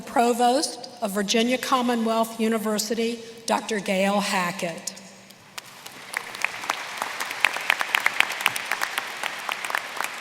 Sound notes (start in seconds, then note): 5.5 applause